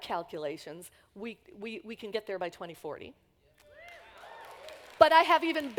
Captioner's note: applause